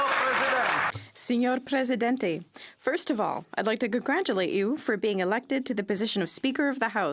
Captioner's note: some Applause